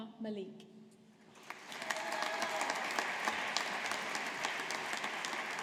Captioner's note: audience applauding